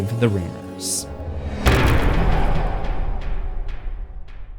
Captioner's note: impact